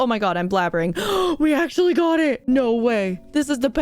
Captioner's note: gasp